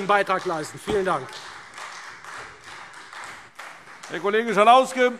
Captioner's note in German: Beifall Freie Demokraten